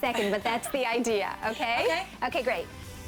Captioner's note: laughter